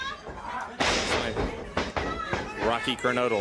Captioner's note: crowd chatter